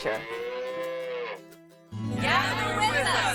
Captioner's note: cow moos